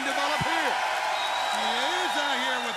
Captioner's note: crowd cheering